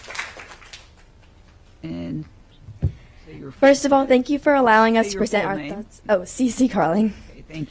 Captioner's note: applause